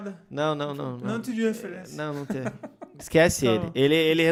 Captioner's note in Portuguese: risos